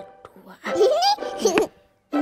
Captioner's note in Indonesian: tertawa senang